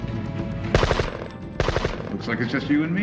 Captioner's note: gun fires